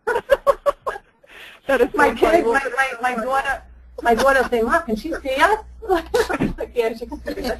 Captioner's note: laughs